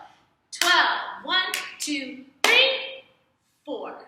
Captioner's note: clap